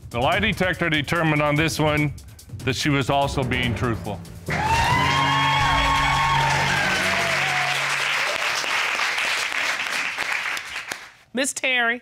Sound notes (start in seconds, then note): 4.4 audience cheers